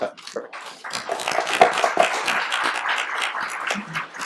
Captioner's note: applauding